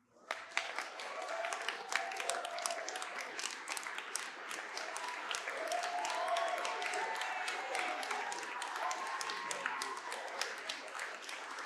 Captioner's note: applause